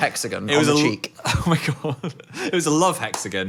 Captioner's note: laughs